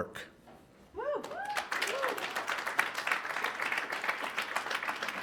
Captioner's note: attendees cheering